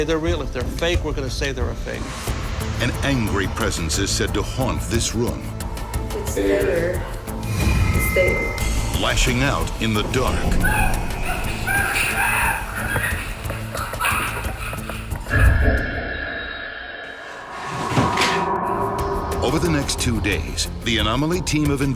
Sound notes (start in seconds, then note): 2.5 voiceover; 11.6 screaming